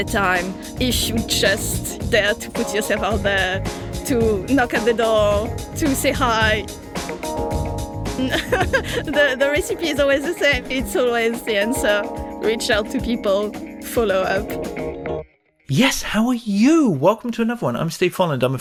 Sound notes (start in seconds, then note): 8.2 laughs